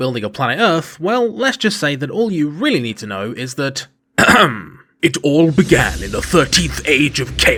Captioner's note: ahem